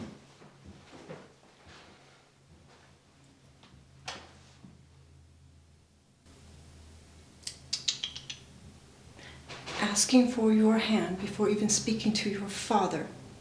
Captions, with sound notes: (mother tuts) - Asking for your hand before even speaking to your father?